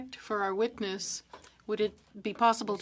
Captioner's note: speaking French